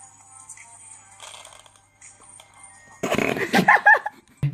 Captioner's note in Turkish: gülüşmeler